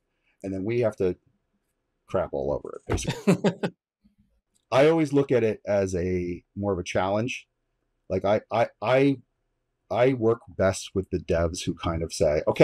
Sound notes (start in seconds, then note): 2.9 laughs